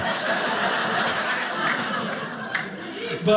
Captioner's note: audience laughing